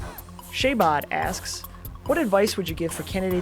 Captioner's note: voiceover